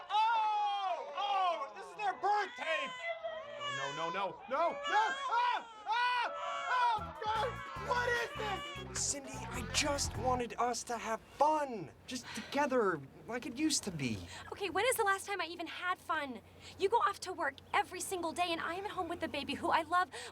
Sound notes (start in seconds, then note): 2.8 baby crying